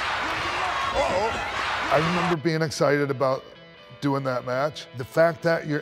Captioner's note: applause